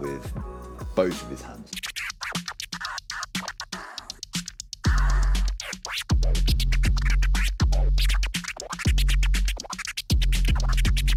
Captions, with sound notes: with both of his hands. (record scratching)